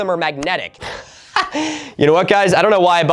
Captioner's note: laughs